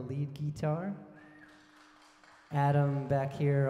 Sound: audience cheering

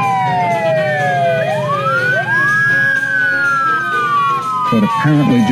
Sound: police Siren

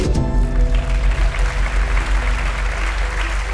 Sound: applause

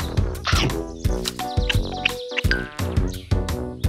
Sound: koala chomps

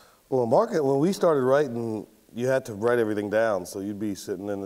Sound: none

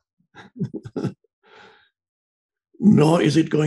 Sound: laughs

